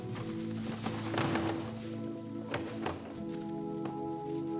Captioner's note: cart rattling